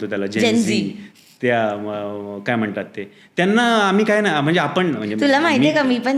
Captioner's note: rambling